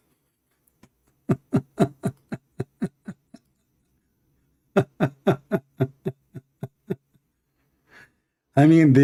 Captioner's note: Ketawa